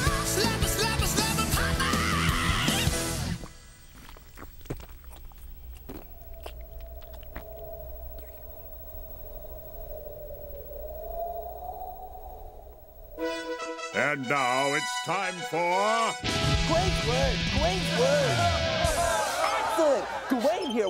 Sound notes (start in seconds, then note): 3.1 music ends abruptly; 17.5 crowd cheering